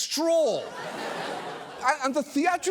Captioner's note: studio audience laughs